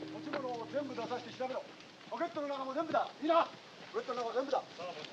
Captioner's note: shouting in Japanese